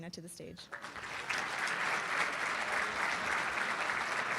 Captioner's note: applauding